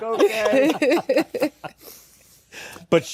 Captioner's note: laughter